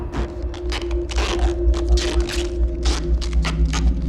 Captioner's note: tape ripping